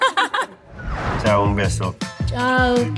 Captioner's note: laughs; speaking in spanish